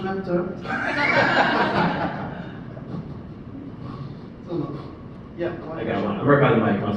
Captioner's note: laughs